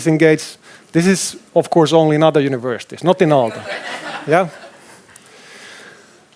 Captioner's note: laughter